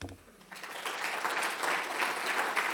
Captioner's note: applause